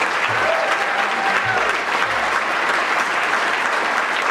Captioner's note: audience clapping